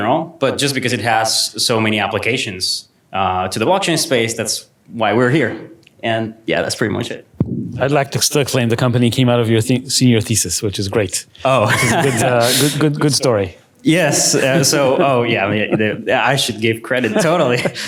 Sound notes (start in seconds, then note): 11.5 laughs